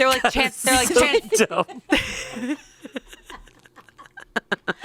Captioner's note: all laugh